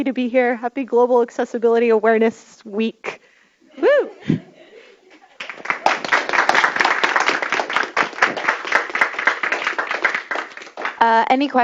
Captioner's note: applause